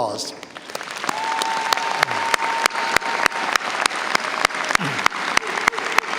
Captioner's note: audience cheers and applauds